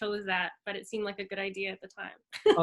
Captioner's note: laughs